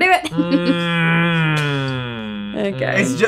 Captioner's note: chuckling; groaning